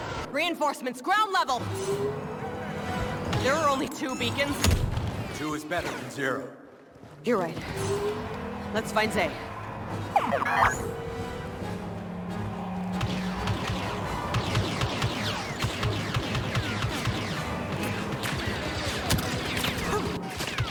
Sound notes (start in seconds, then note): 10.1 beeps